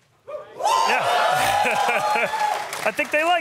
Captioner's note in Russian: публика аплодирует